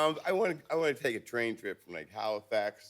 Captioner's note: none